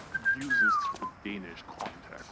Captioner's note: whistles